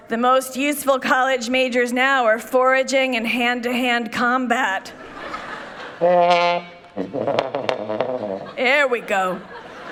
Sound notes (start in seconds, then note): 4.9 people laughing; 6.0 playful trumpet